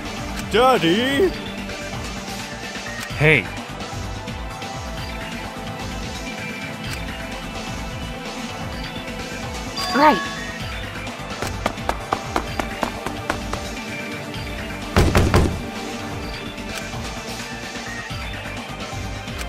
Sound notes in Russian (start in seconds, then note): 15.0 Стук стук стук!